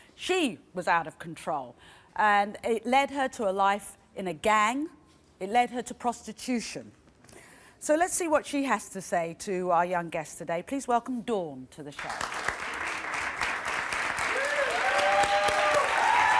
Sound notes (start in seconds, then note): 12.0 applause and cheering